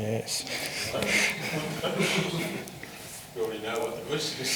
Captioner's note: all laugh